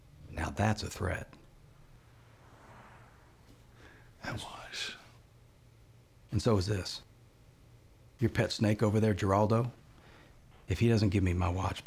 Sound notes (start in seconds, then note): 4.1 scottish accent